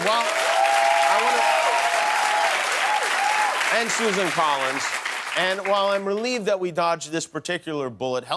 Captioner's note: cheers and applause